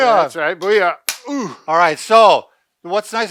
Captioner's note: sticks clicking